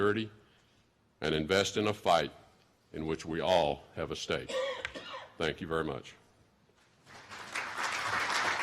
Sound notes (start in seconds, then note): 7.0 applause